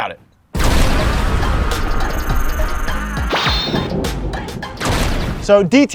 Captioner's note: thunder crashes; rhythmic music; thunder crashes